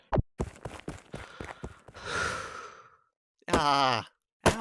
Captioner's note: deep sigh